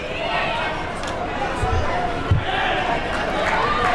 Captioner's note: crowd talking